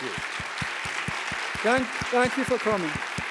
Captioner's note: audience applauding